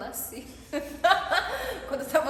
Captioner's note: laughing